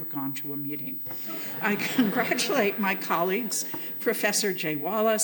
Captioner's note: laughter